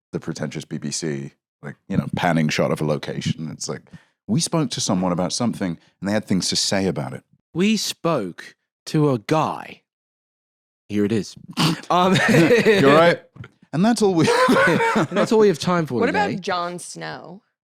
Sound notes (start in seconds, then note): 11.6 laughs